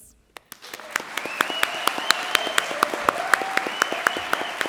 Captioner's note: audience applauds